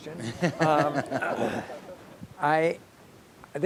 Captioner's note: audience laughing